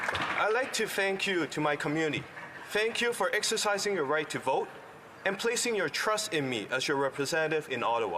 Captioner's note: applause